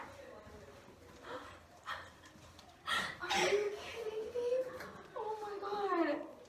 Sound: gasp

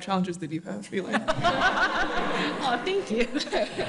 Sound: all laughing

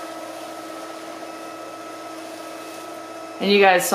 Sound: motor whirring

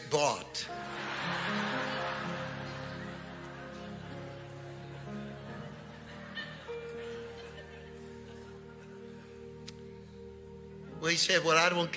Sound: congregation laughing

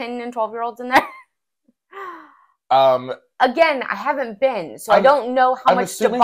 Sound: laugh

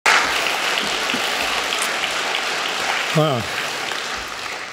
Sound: applause

